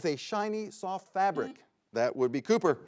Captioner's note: buzzer beeps